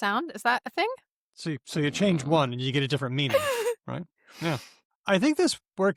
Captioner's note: laughs